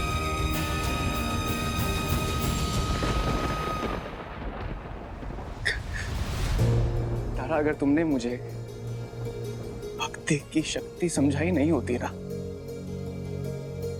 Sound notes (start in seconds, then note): 2.9 music fades out; 5.6 chuckles